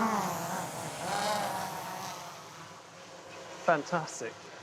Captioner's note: drone whirring